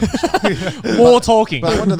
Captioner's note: chuckling